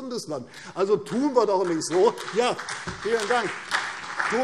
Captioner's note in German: Beifall CDU und BÜNDNIS 90/DIE GRÜNEN